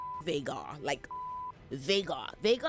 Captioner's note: beep